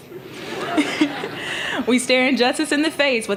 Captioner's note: laughter